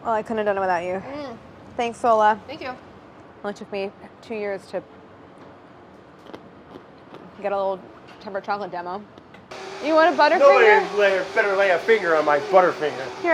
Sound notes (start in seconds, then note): 6.2 crunching